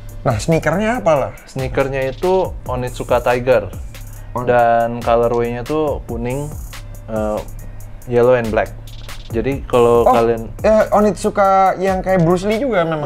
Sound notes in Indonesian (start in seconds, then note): none